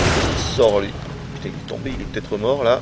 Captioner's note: mumbles